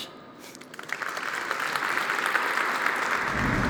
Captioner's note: applause